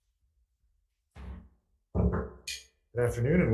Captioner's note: gavel bangs